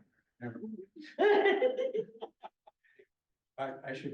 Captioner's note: laughter